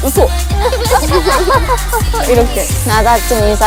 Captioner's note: copying how the turkey laughs